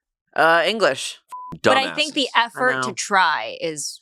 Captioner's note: beep